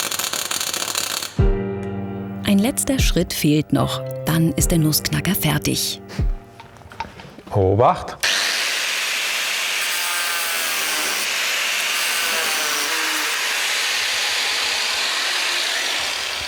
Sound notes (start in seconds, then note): 12.7 Schleifgeräusch